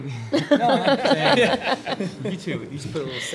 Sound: laughter

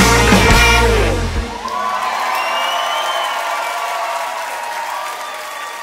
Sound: alegrías de multitud

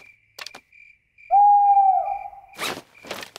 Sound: hooting

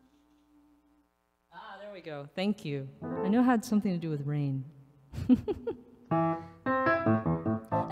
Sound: laughs

